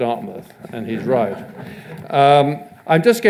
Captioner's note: audience laughs